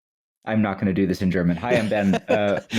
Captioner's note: in English; laughter